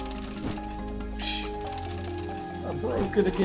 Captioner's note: laughs